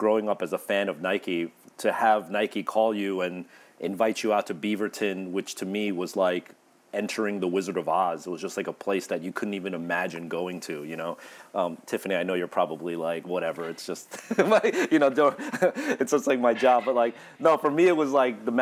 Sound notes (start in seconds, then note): 14.1 laughs